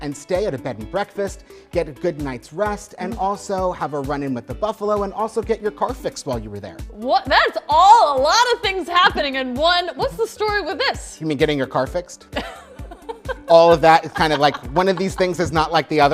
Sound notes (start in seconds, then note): 12.4 laughing